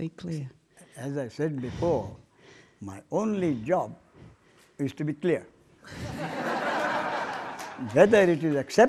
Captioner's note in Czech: smích